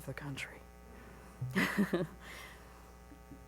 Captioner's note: laughs